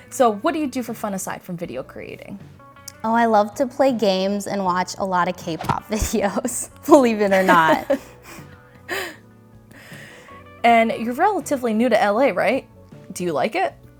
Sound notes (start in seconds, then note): 7.3 both laugh